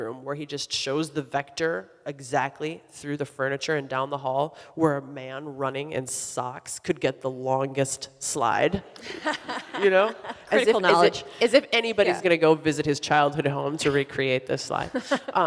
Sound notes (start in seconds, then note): 9.0 audience laughs; 9.0 laughs